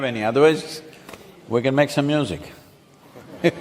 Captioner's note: laughter